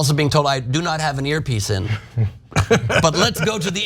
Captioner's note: laugh